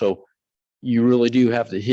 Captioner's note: none